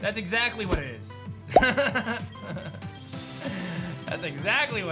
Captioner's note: laughs